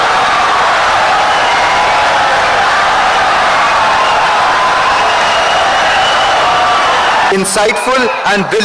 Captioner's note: wild applause and cheering for 17 seconds